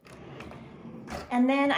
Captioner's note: drawer closes